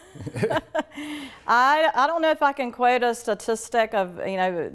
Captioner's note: laughs